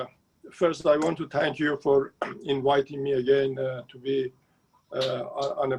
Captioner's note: speaking Farsi